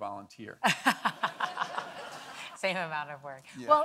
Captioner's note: audience laughing